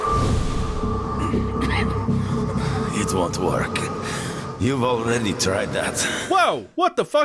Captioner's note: coughing